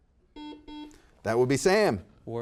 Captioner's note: buzzer beeping